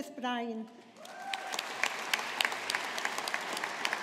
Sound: audience applauding

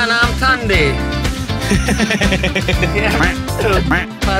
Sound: laughs

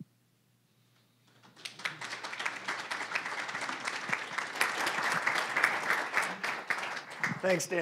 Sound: applause

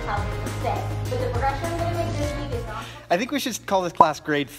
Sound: upbeat music; background chattering

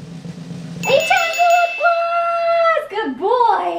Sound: bell dings

